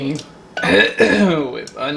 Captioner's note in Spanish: Carraspea